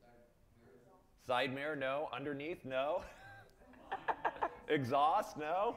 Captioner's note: laughs